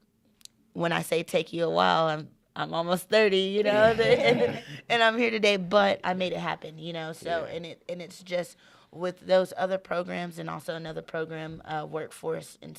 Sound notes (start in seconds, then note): 3.7 laughing in unison